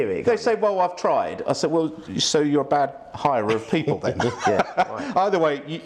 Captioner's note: laughs